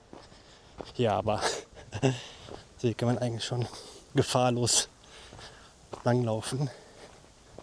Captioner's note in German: gelächter